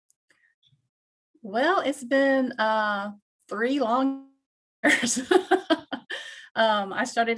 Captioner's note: laughs